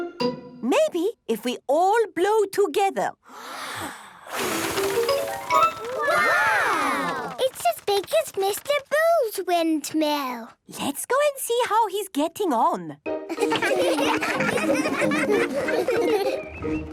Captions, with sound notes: - Maybe, if we all blow together. - (big breath and blow) Wow! - It's as big as Mr. Bull's windmill! - Let's go and see how he's getting on.